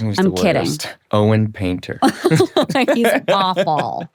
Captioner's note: both laughing